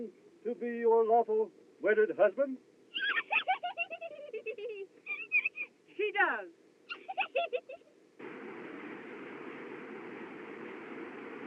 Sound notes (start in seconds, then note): 2.9 giggling